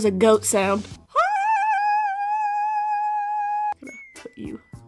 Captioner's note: screams of unimaginable horrors